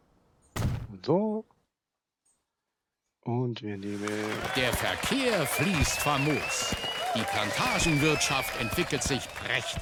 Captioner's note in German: jubel